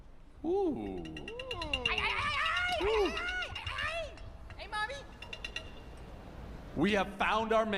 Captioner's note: exclaiming